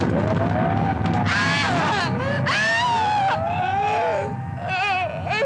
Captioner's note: Cleo screaming